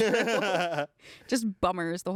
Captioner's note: everyone laughs